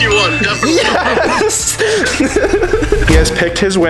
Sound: laughs

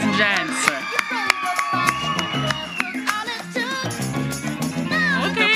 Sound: audience applauds

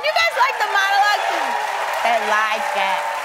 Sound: cheering and applause

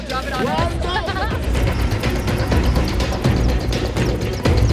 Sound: laughing

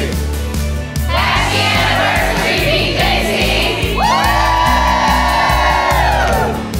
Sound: cheering

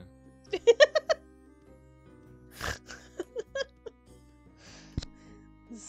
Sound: laughs

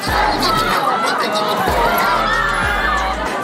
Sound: screaming

